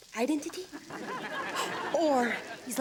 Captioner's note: audience laughs